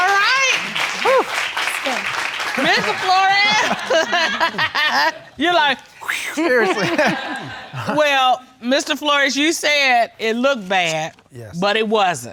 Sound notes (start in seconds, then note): 1.9 exhales; 6.2 laughing; 6.4 chuckles